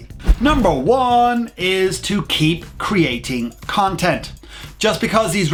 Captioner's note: whoosh